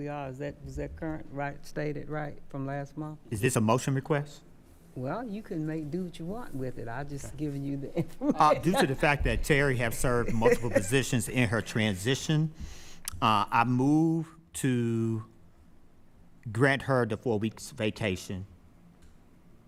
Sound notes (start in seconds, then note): 8.0 laughing